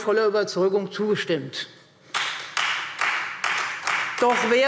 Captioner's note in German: Beifall Freie Demokraten